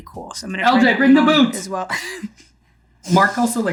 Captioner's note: chuckles